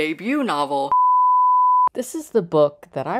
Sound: beep

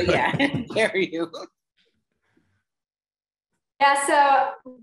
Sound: laughter

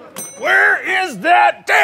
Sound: door dings

